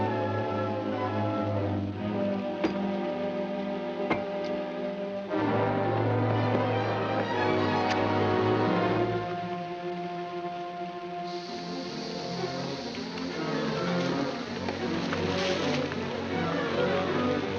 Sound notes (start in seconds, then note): 2.5 whack; 5.2 dramatic music; 7.8 match striking; 8.5 dramatic music; 11.2 fuse hissing; 16.0 dramatic music